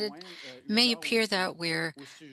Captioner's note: speaking French